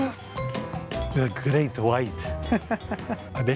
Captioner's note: laughs